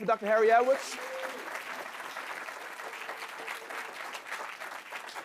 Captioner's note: audience clapping